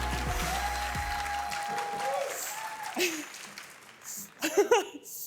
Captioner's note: cheering continues